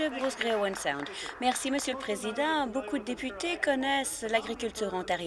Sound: some Applause

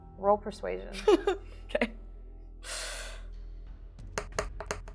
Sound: laughs; dice thudding

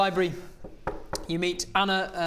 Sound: knock knock knock

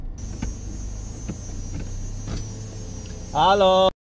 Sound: sound of car window opening

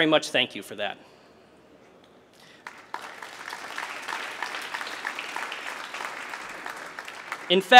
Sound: applause

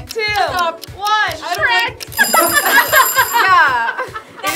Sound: laughs

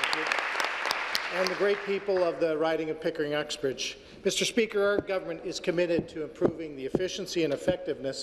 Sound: applause

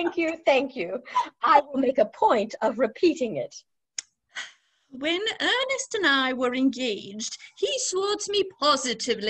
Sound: laughter

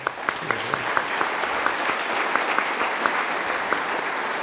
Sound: audience applauds

